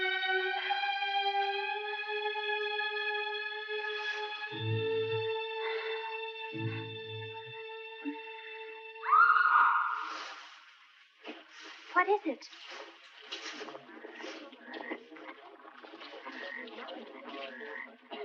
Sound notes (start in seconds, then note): 9.0 distant screaming; 13.3 all murmuring